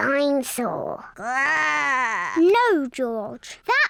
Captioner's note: growls